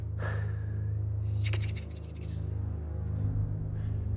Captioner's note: doux sifflement